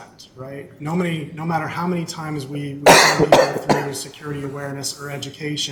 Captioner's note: coughing